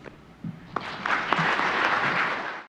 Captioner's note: audience clapping